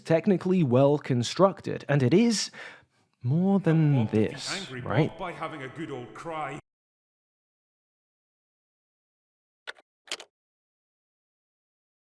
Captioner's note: Critical Drinker's words echo